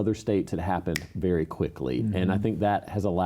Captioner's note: fingers snapping